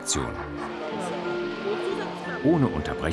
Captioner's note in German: Stimmengewirr